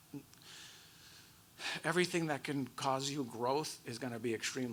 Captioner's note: sighs